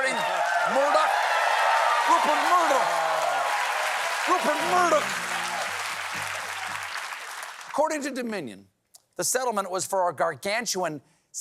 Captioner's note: laughter